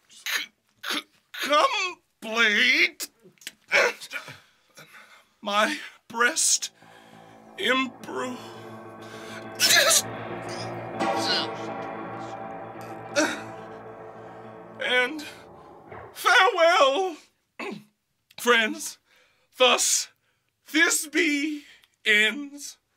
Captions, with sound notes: come blade, my breast imbrue: [Thisby moans] And, farewell, friends; thus Thisby ends: